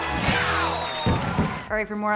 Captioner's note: fireworks popping